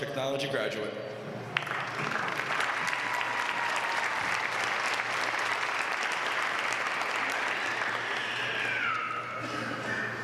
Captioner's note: applause